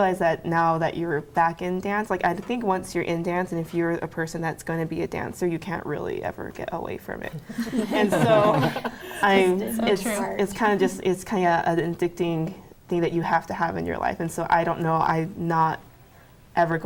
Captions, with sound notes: that now that you were back in dance, I think once you're in dance and if you're a person that's gonna be a dancer, you can't really ever get away from it. And so... (laughing) It's kind of an addicting thing that you have to have in your life, and so, I don't know, I'm not ever gonna